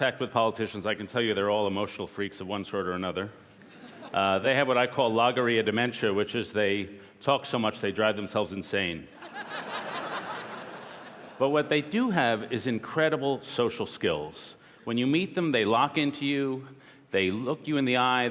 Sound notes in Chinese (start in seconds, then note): 9.2 笑聲